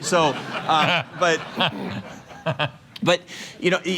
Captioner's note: laughter